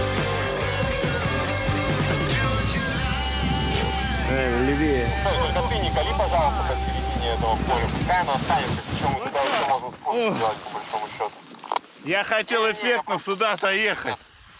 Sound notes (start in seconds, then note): 6.0 chatter on the radio